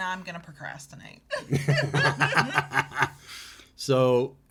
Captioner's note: both laughing